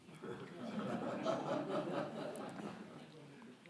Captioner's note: audience laughs